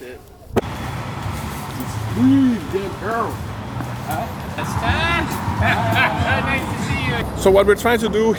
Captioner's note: city traffic